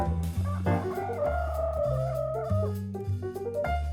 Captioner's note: rooster crowing; gentle music